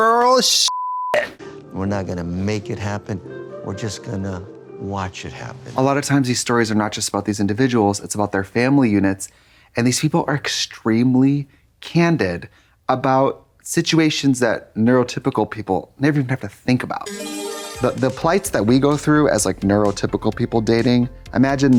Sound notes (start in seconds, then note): 0.6 beep; 17.0 bright chime